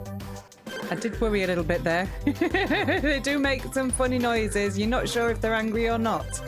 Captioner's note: laughing